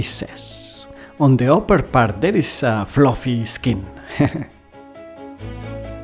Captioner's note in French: rires